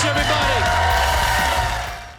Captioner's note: audience cheers